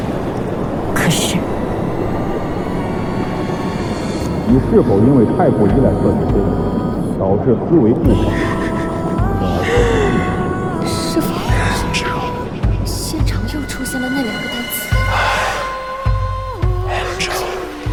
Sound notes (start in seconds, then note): 7.9 Thanatos' familiar laughter emanates from the abyss